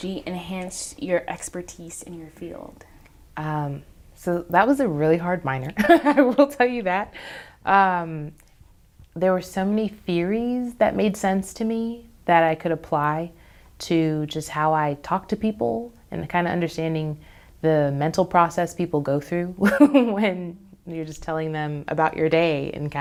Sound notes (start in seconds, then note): 5.8 laughs; 19.7 laughs